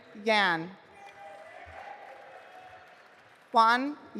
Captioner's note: audience applauding